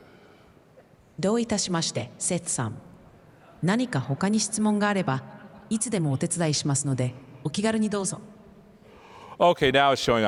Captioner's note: non-english